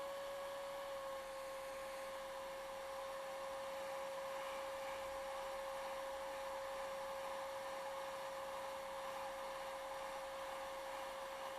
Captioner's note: blow-dryer humming